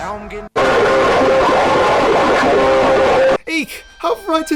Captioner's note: scream